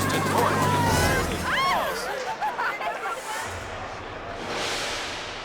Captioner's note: all cheering